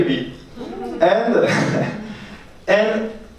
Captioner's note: laughs